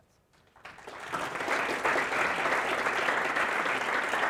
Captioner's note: applause